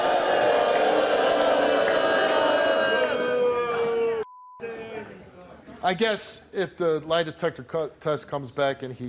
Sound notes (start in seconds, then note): 4.2 beep